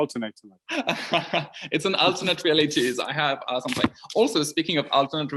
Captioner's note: laughs